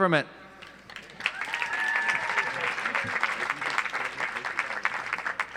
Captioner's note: audience applauds